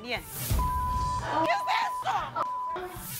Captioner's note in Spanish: Bip